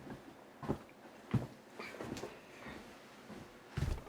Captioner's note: feet thudding